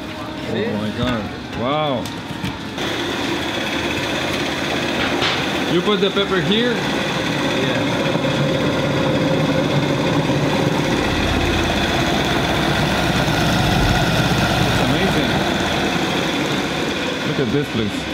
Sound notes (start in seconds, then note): 3.3 grinding